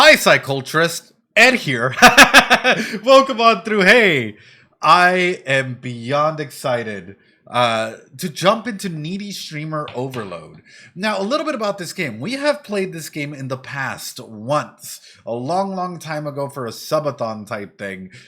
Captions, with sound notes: Hi, Psyculturists, Ed here. [LAUGHS] Welcome on through Hey. I am beyond excited to jump into Needy Streamer Overload. Now, a little bit about this game. We have played this game in the past once, a long, long time ago for a sub-a-thon type thing.